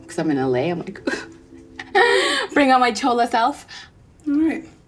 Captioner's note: laughs